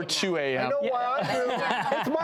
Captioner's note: laughing